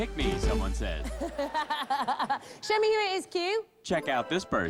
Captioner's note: laughs